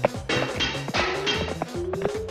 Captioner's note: clattering